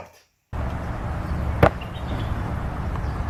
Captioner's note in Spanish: ¡bonk!